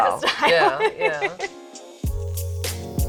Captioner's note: laughs